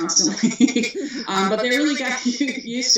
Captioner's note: laughs